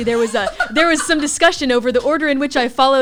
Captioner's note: laughs